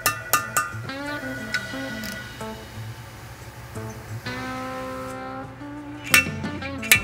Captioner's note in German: Metall klirrt